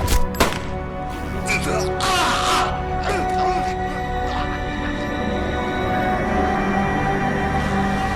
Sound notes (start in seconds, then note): 1.9 screaming